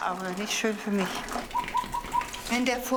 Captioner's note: gurgling